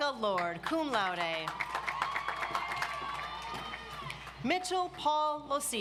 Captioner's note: audience applauds